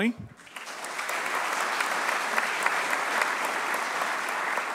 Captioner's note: applause